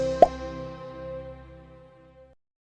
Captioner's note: logo pops